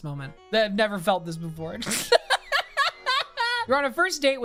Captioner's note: laughs